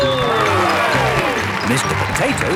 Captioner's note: cheering